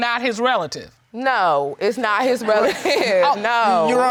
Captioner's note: crowd laughing